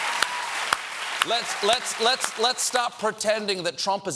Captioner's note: applause